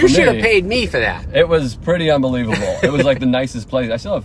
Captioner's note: laughing